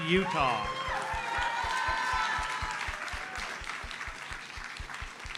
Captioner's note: audience cheers and applauds